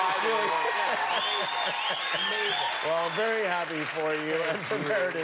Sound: cheers and applause

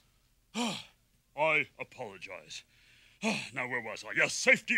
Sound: sighs

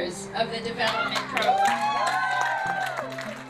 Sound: cheering and applause

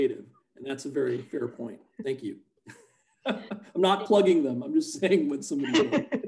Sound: laughs; laughter

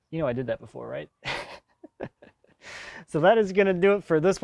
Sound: laughs

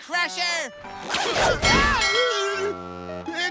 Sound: screaming

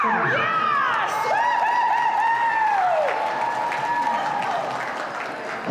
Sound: crowd whoops and claps

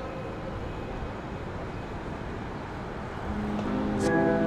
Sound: city sounds

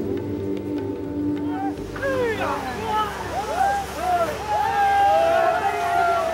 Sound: collective cheers of encouragement

